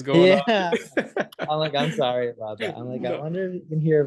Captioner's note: laughs; chuckles